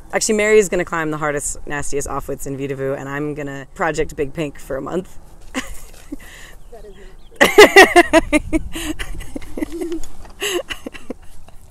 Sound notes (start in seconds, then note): 7.3 laughing; 7.3 laughs